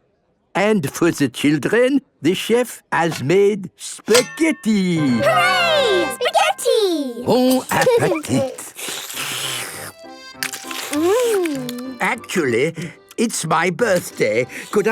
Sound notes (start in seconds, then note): 7.4 slurping